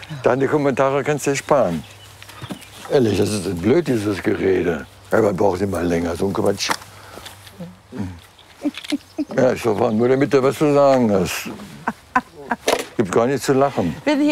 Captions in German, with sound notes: Deine Kommentare kannst dir sparen. Ehrlich, das ist blöd, dieses Gerede. "Herbert braucht immer länger", so ein Quatsch. (Sie lacht leise.) Ich weiß nicht, was es da zu lachen gibt. Gibt gar nichts zu lachen.